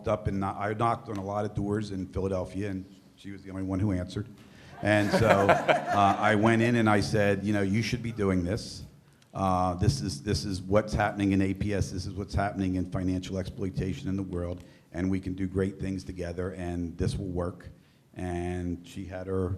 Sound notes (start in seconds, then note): 7.4 laughter